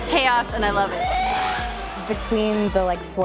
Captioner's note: screaming